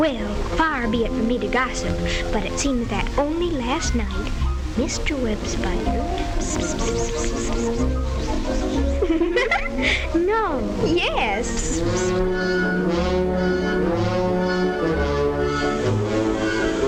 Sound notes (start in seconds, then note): 7.0 spiders whispering; 9.5 spiders giggling; 13.2 bright music; 16.6 gnome blowing